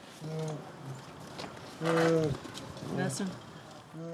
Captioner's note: moaning